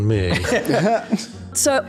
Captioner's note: chuckles